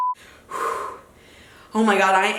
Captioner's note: exhales